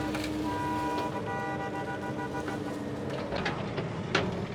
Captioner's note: truck horn